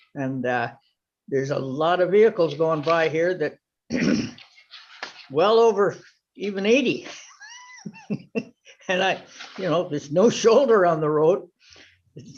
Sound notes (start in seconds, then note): 7.1 laughs